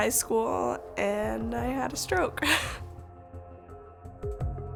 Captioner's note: laughs